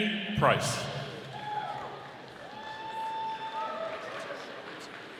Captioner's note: audience applauding